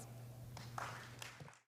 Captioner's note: applause